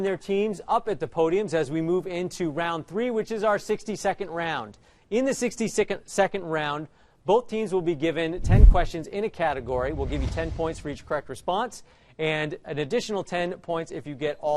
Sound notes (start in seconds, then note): none